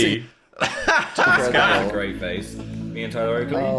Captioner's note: laughs